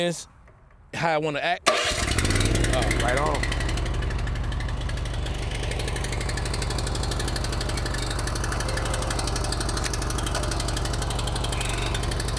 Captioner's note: machine noise